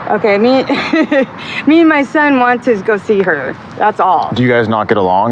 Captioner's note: laugughshs